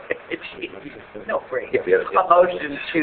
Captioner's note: laughing